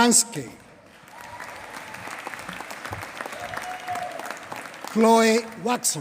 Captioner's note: applause